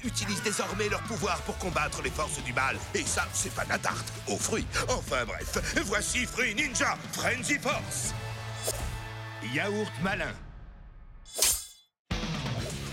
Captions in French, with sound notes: Ces ninjas utilisent leurs pouvoirs pour combattre le mal. Ça, c'est pas de la tarte... aux fruits ! Bref, voici Fruit Ninja : Frenzy Force ! YAOURT MALIN [claquement d'épées]